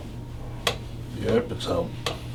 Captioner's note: cracking